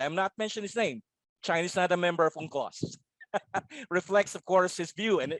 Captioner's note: laughs